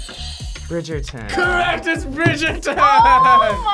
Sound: bell rings; buzzer rings

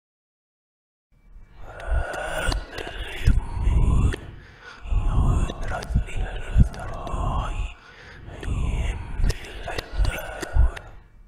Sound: demonic voice

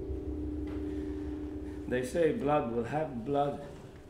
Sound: bell rings

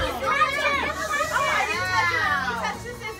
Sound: shhhh

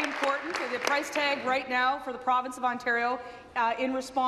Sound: applause

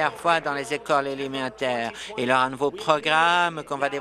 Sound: applause

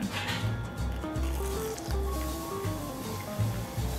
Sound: crispy heaven soundddd

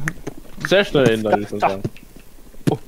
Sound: beatboxing

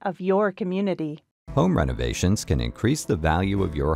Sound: voiceover

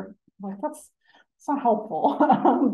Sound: laughing

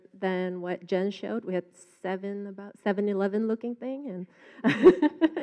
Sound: laughs

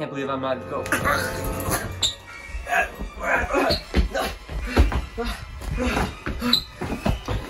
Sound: choking sounds

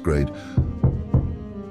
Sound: knocking

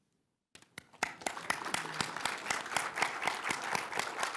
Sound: applause

